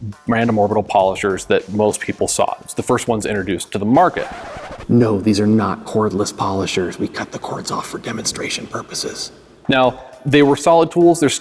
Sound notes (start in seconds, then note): 4.2 record scratching